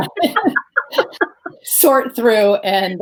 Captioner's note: both laughing